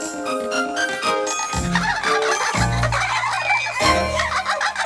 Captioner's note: giggling